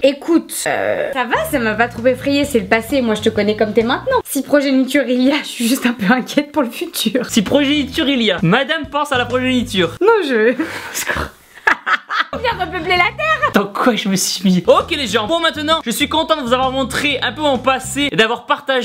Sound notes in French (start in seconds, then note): 11.5 Rires